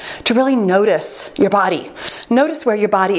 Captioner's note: timer beeps